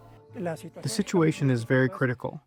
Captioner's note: through translator